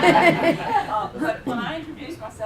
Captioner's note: laughter